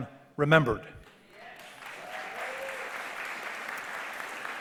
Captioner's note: audience applause